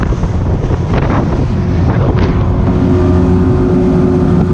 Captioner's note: engine humming; wind whistling